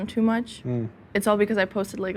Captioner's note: hums